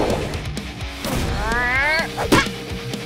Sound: grunting

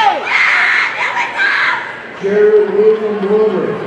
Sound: audience member screaming indistinctly

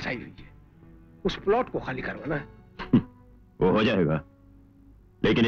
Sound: chuckles

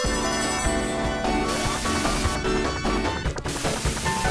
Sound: rings jingling; static hissing; Tails whooshes; Tails whirring

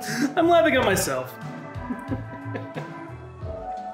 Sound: laughs

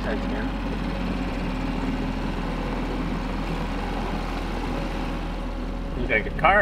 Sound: boat spluttering; somber music

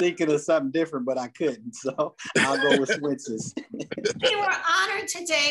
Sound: laughs

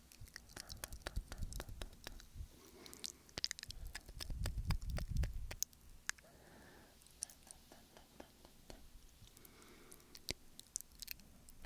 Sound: soft tongue flutters

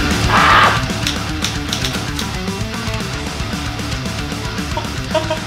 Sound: sighs; typewriter keys clack; laughs

